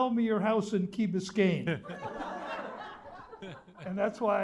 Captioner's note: laughter